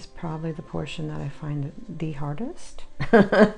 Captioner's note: laughs